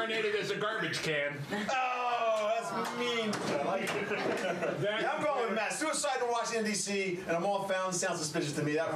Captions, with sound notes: - HE'S GONNA BE REINCARNATED AS A GARBAGE CAN. [Scattered groans] - OH, THAT'S MEAN. YEAH, I'M GOING WITH MATT. SUICIDAL WATCH IN DC AT A MALL FOUNTAIN SOUNDS SUSPICIOUS TO ME.